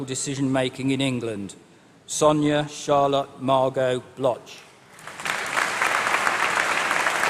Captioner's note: applause